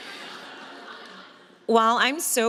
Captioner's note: audience laughs